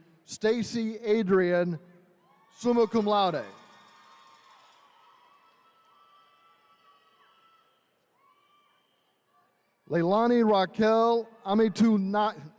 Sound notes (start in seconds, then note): 4.0 attendees cheering